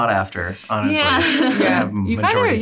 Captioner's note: laughs